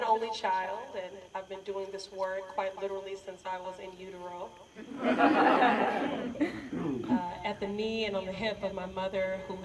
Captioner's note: laughter